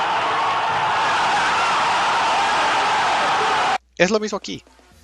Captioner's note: even louder evo moment 37 noises